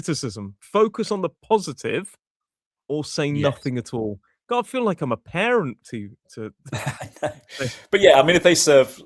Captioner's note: laughter